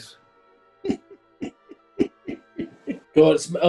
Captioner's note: giggling